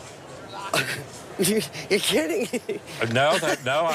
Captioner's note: chuckling